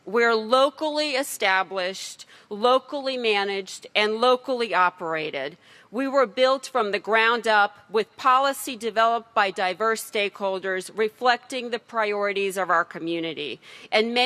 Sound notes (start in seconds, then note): none